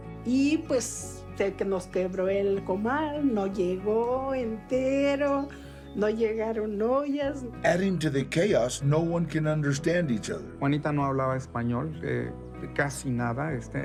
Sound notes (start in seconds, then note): 7.5 in English; 10.6 in Spanish